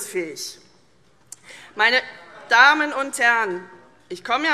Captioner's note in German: Zurufe SPD, Freie Demokraten und DIE LINKE